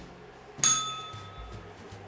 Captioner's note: bell rings